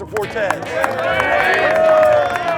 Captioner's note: cheering